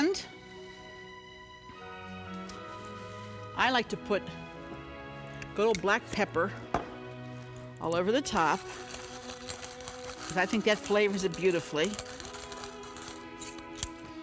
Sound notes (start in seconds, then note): 10.0 pepper grinds